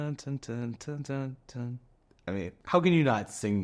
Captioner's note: humming